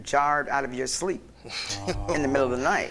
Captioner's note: laughter